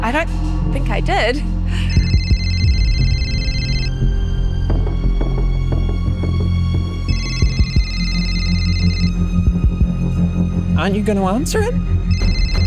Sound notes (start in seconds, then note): 1.8 cell phone rings; 6.5 suspenseful music continues